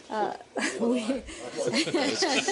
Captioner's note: laughter